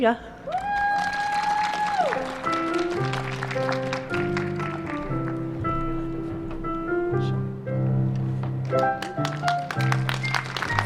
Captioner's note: applause, cheers and ♬♬ piano ♬♬